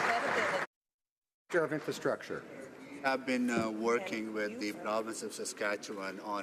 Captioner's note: some Applause